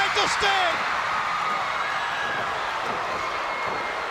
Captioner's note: crowd cheering